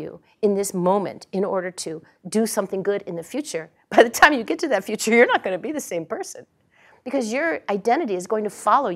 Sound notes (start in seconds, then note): 3.2 laugh